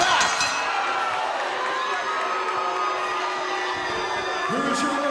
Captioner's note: crowd cheering